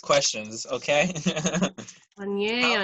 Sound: laughter

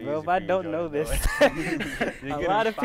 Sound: laughs

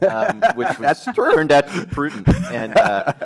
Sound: laughs

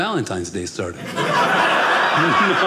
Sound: audience laughing

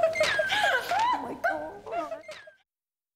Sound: laughing & cheering

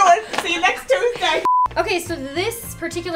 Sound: beeping sound

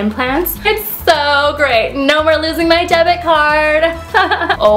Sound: laughs

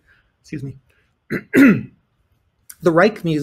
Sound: clears throat

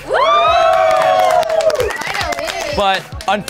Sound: housemates cheering

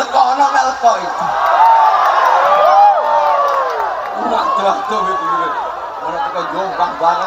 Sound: applause

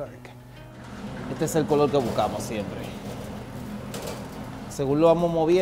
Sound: speaks Spanish

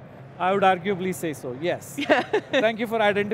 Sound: laughter

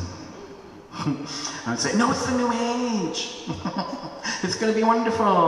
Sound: giggles

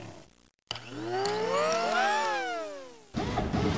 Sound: motorized conveyor belt; servos

